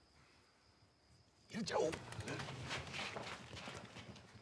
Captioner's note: speaks in native tongue